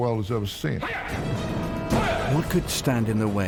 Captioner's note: speaker speaking in foreign language